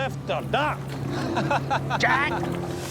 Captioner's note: laughs